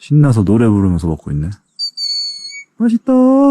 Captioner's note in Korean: 새 소리